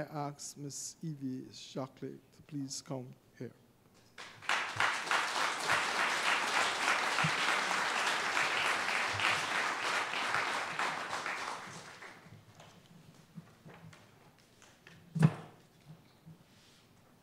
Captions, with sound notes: ask Miss Evie Shockley to please come up here. [APPLAUSE]